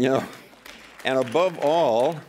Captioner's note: applause